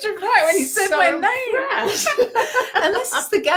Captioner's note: laughing